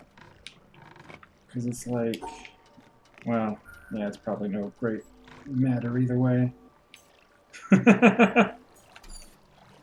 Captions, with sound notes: 'Cause it's like... well, yeah, it's probably no great matter either way. [laughs]